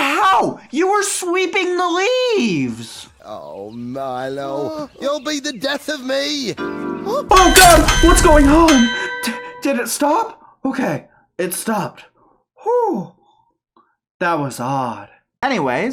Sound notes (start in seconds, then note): 3.4 shaky screen, earthquake sounds, and clock bell ringing